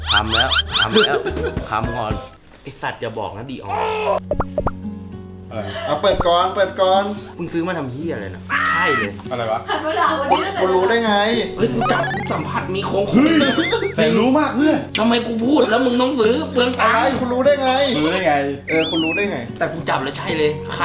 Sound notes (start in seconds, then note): 0.0 laughing; 5.6 gasp; 13.2 chuckles